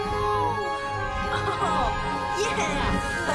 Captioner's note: laughing